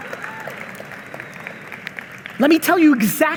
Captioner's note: audience applauding